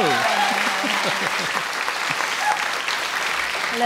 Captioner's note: audience Applause